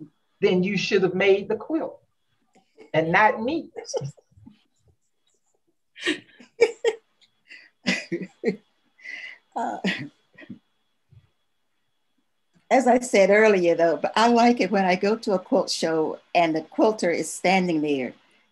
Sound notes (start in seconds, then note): 6.0 laughter